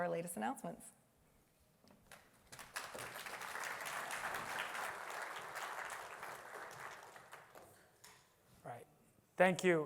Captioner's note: applause